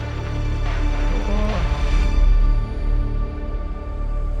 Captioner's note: dramatic music; groans